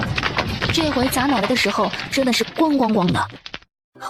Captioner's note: thud thud thud